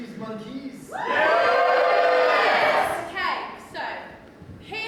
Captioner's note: audience cheers